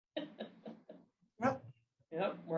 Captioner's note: laughter